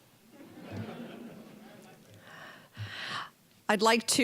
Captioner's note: audience laughing